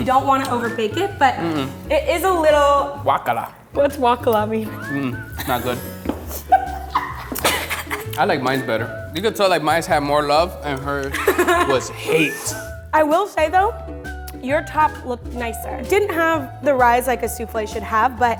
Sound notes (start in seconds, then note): 6.3 laughing